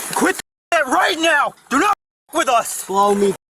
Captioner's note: none